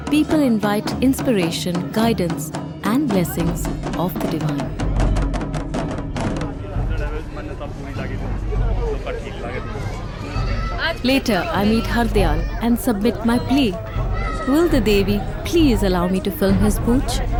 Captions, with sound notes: people invite inspiration, guidance and blessings of the divine. (intense drumbeats) (indistinct conversation) Later, I meet Hardayal and submit my plea. Will the Devi, please allow me to film his poonch?